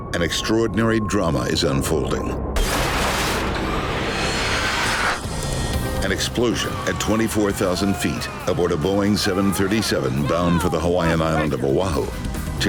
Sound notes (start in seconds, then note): 2.6 metal tearing away